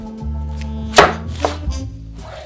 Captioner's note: knife slicing